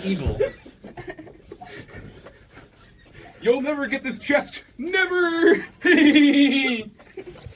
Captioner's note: looks back, laughs evilly